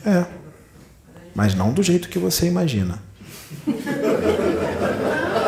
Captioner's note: laughs